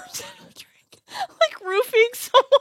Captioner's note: laughs